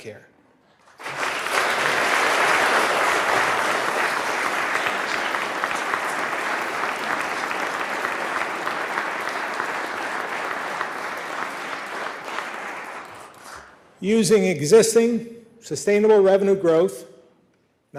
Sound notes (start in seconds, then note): 4.3 applause